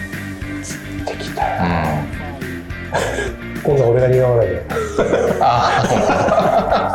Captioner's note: laughs